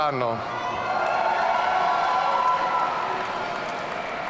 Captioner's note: audience cheering